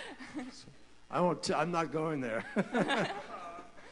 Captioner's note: laughter